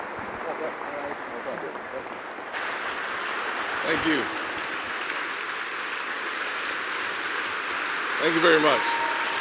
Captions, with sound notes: - Thank you. (applause) Thank you very much.